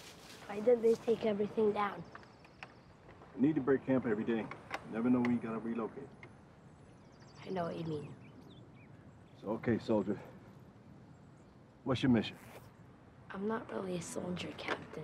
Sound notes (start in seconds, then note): none